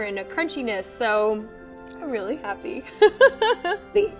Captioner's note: laughs